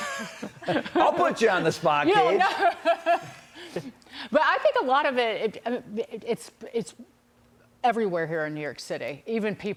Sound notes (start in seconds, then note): 2.3 laughter